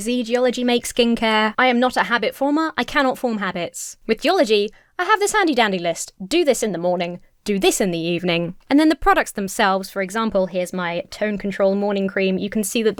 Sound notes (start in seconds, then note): none